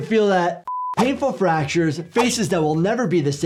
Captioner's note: beep